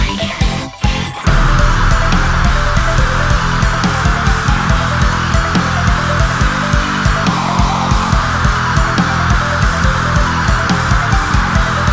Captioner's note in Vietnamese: Scream